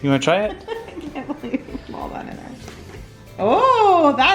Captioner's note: laughs